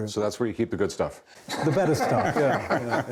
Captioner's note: laughter